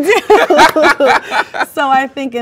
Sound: both laugh

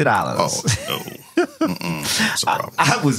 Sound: laughing

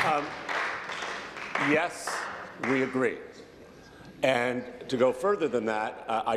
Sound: applause

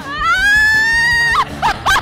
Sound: more screaming

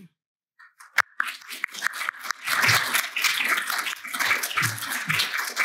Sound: applause

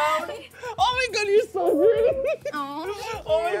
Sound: laughs

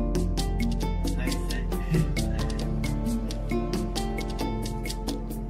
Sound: speaking foreign language

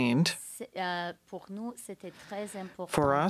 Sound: speaking French

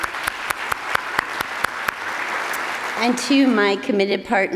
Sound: attendees applauding

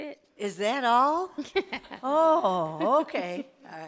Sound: laughs

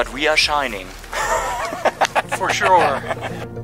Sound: laughs

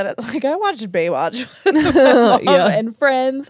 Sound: laugh

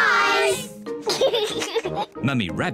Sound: laughs

